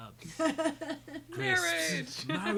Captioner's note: laughing